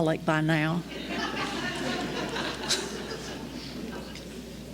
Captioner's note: laughter